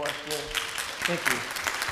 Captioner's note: audience applauding